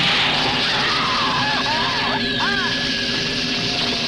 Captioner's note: screaming